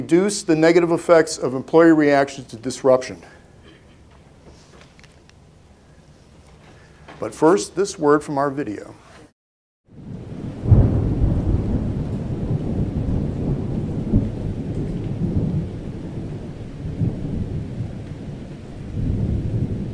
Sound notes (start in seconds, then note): 12.8 thunder